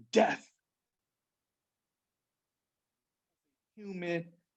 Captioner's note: audio cuts out